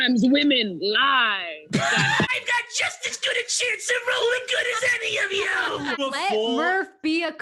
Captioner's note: shrilly